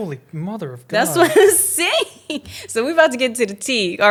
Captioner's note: laughs